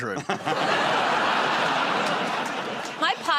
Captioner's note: laughter